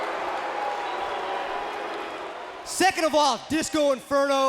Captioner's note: crowd cheering